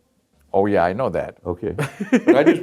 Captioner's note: laughs